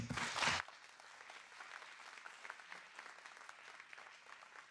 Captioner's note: audience applauding